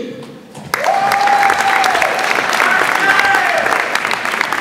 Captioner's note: audience applauds